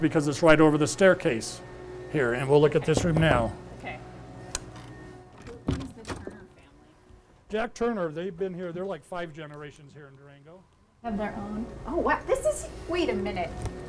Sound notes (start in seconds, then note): 2.9 knocks; 5.2 door opens